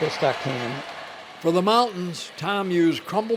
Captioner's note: voiceover